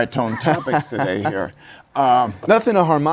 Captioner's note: laughs